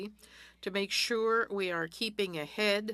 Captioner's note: speaking French